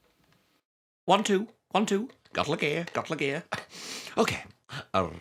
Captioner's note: chuckles